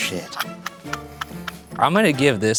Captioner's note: laughing